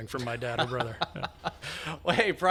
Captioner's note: laughs